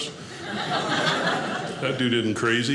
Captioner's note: audience laughing